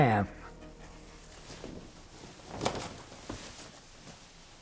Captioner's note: soft rustle of clothing